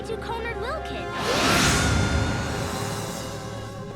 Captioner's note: yelling